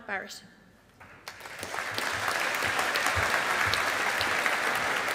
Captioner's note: audience applauding